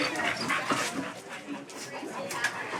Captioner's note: chatter